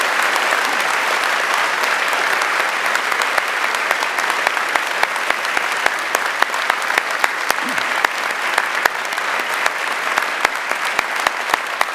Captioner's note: applause